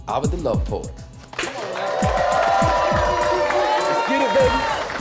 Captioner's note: cheers and applause